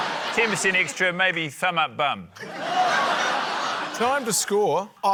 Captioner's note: laughter